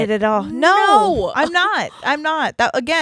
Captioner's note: chuckles